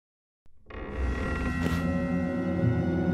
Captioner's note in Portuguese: porta se abre